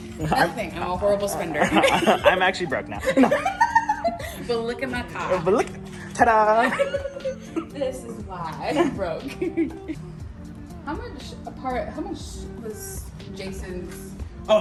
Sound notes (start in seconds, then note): 2.8 both laughs